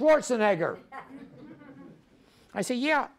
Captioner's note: audience laughs